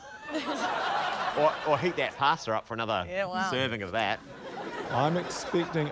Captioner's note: laughter; laughter